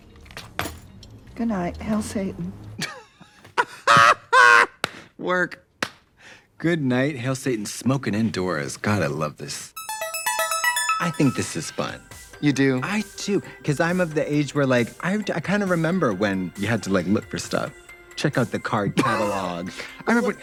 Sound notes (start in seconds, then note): 2.8 both laughing